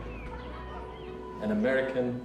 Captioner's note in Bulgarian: Неясно бърборене на заден план